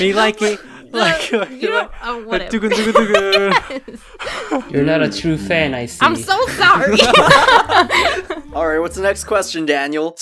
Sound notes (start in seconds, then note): 6.6 all laugh